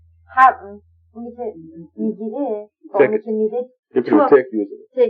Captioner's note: speaking Farsi